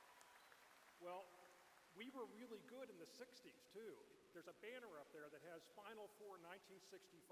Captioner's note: cheers